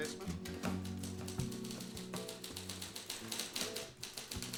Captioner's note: typing